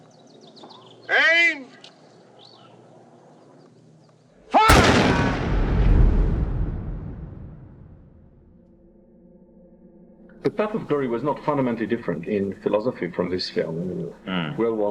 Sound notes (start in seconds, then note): 1.2 shouts; 4.6 gunshots